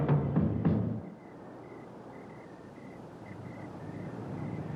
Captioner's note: crickets chirping